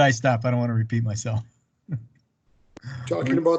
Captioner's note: laughs